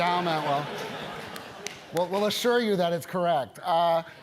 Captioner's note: laugh